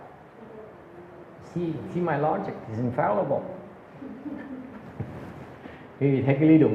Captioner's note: laughter